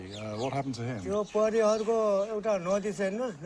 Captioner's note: speaking native language